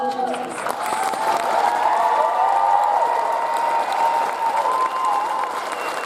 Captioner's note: audience cheers and applauds